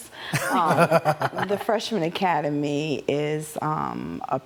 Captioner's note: laughs